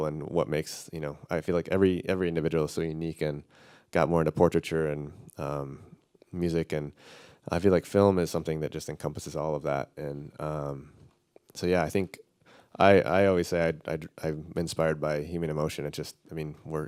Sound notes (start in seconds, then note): none